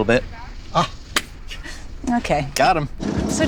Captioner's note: hands slapping